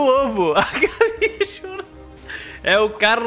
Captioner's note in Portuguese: risos